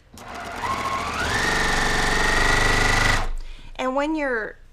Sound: sewing machine whirring

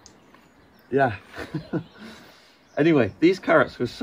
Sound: chuckles

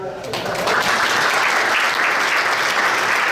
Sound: applause

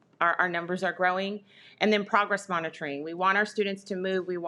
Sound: none

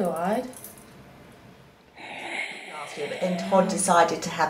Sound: oxygen mask breathing sound

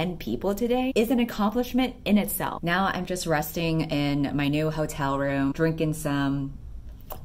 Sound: sip

